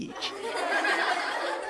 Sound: laughter

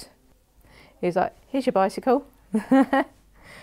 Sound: she chuckles

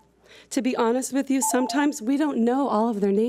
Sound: timer beeps

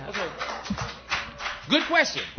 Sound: applause

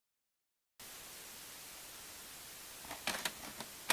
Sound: white Noise

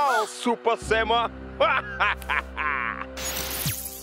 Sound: laughing

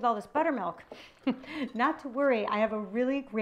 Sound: chuckles

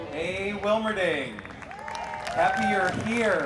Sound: audience applauding

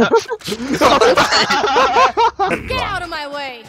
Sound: laugh; more laughs

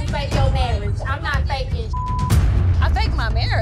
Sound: beep sound

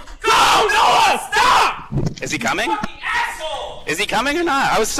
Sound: screaming in background

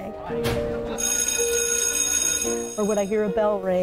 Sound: bell rings

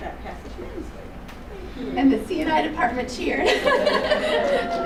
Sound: chuckles

